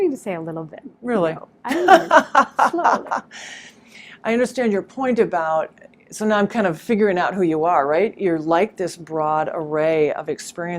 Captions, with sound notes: But I'm learning to say a little bit of no, slowly. (laughing) - I understand your point about, so now I'm figuring out who are you, right, you're like this broad array of